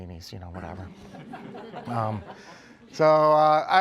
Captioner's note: laughter